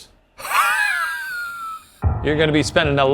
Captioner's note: laughs